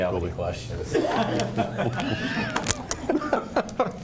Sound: laughs

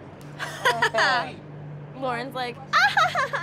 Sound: laughs

